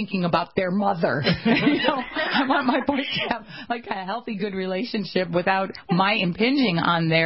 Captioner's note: laughter